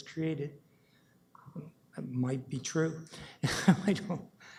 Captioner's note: chuckles